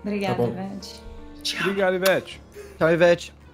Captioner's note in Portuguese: smack